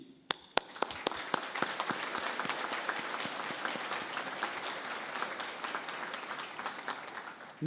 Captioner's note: applause